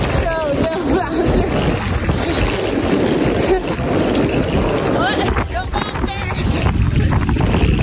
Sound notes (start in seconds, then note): 0.0 luggage scraping on sidewalk; 2.5 laughs